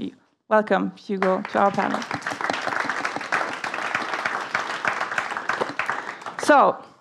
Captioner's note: applause